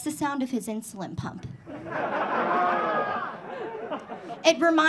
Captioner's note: audience laughing